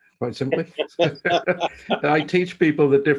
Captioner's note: both laughs